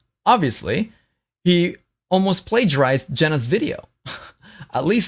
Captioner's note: laughs